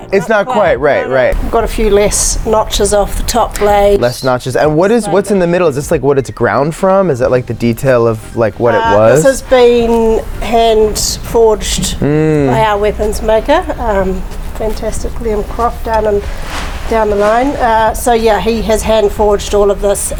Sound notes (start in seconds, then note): 11.9 hums in agreement